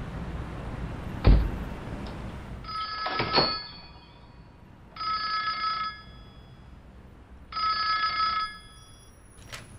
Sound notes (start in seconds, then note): 2.5 phone ringing